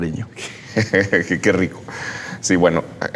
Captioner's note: laughs